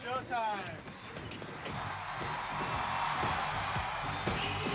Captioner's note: cheering